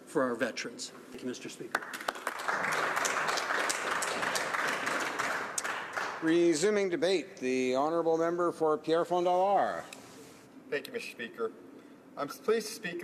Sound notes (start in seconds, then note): 6.2 some Applause